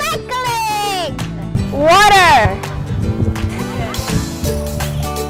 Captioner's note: laughing